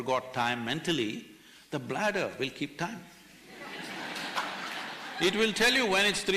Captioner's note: laughter